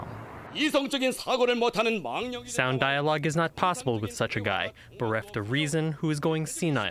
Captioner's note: through translator